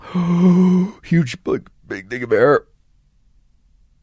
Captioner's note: inhales